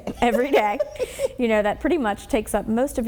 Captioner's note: chuckling